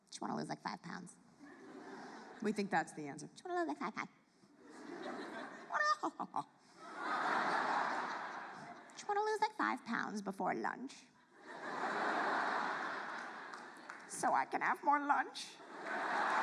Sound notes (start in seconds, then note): 6.8 audience laughs; 11.4 audience laughs